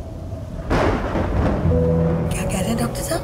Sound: thundering

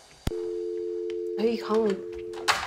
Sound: phone beeps

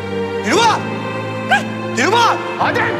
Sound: Dilruba shouts

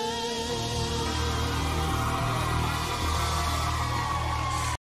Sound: cheers and applause

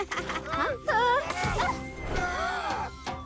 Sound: gasping; shouting

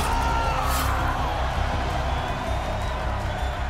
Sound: screams; cheering

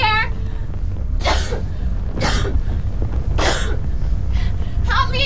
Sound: Kelly coughing

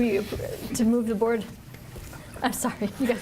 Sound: laughs

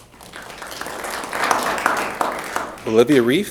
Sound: applause

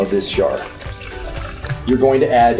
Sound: liquid pours

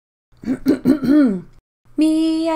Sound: clears throat

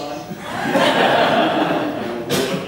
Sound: laughter

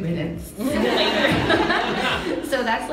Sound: audience laughs

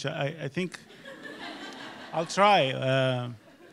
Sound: audience laughs

